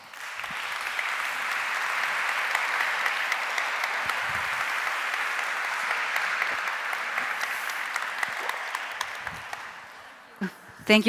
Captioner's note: applause